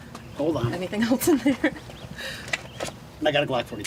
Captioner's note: laughs